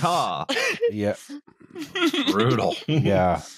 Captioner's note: laughs